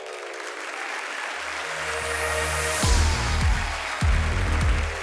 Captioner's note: audience applauding; upbeat music